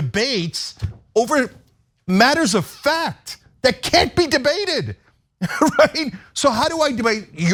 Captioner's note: laugh